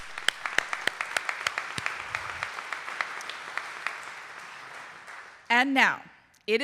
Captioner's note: audience applauding